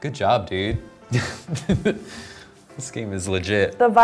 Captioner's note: laughs